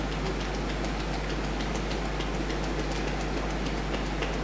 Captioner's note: fingers tapping